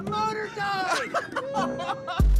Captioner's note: laughter